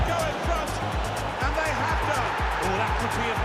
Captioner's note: crowd roars